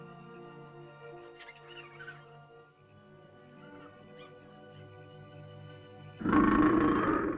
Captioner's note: sentimental music; small animal chitters; large animal growls